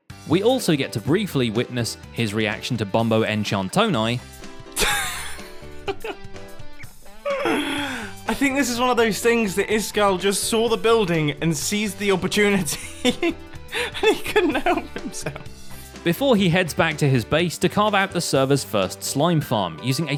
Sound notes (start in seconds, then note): 5.4 laughs in british; 12.6 laughs